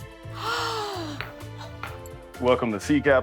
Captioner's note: gasps